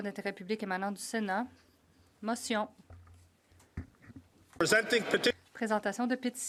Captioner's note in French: voix de l'interprète